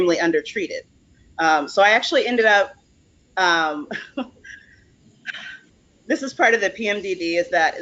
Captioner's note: laughs